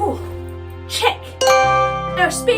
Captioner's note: chime